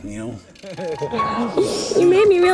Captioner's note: chuckling